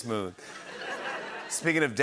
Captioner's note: laughter